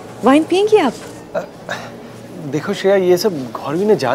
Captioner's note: Gasps